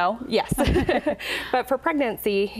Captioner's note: laughing